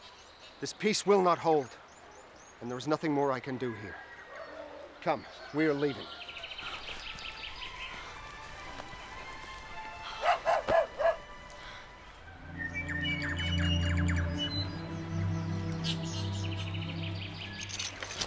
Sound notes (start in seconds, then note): 10.2 dog barking; 13.2 gentle music